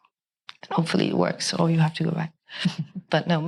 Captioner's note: chuckles